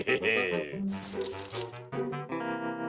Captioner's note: keys jingle